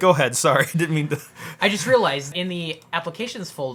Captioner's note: laughs